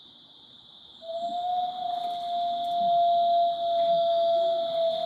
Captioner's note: wolf howls